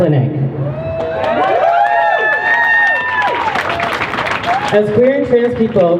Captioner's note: crowd cheers